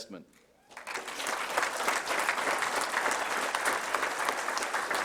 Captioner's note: applause